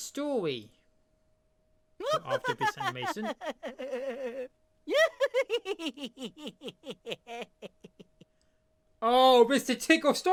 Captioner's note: mr tickle chuckling